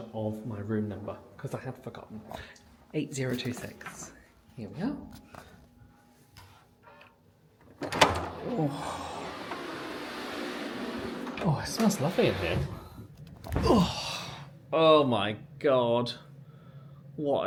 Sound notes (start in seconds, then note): 7.6 door buzzing and clicking; 8.4 groans; 13.5 groans